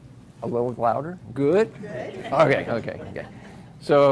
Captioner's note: laughs